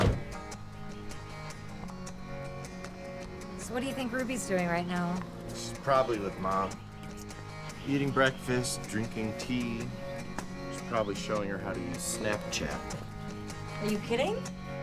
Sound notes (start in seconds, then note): 0.0 door closing